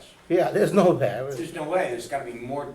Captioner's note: voiceover